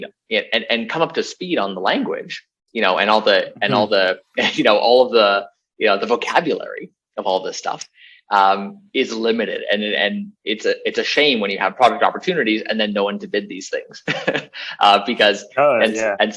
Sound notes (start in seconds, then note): 13.8 laughs